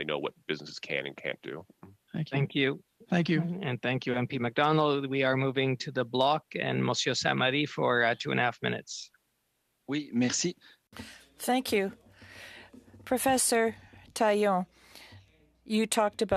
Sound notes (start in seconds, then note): 12.6 speaking FRENCH